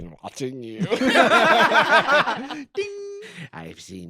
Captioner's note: all laughing